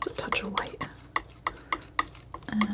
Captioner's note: scratching noise